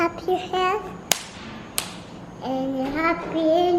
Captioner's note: clapping